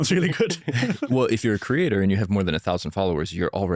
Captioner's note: laughs